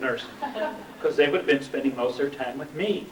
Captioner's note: laughter